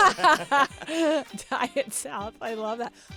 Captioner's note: laughter